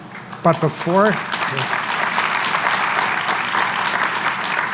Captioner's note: applause